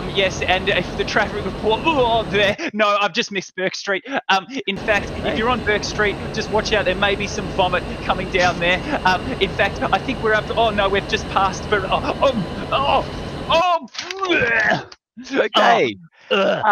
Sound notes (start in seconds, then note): 2.2 gagging; 12.0 gagging; 15.3 sound of vomiting